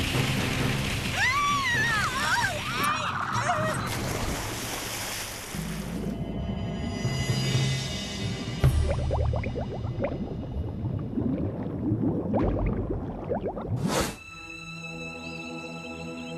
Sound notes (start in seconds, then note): 1.1 screams